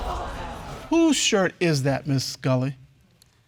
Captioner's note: audience exclaims